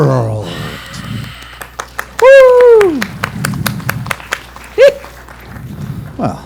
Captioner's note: cheers and applause